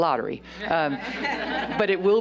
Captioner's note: laughter